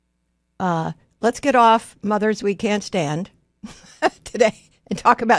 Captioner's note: laughs